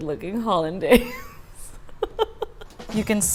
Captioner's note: laughing